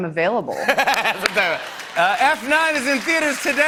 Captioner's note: laughter and applause